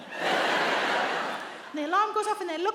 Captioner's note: audience laughs